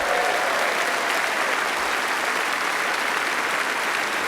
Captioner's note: applause